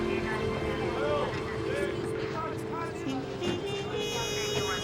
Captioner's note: people chattering indistinctly